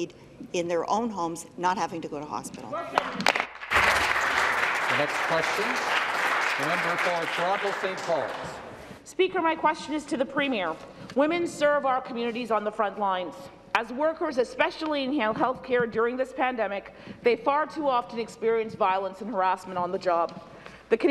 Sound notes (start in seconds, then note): 8.0 applause